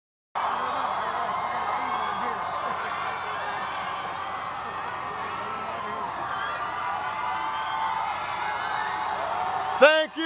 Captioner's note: crowd cheering